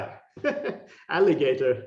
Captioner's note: laughing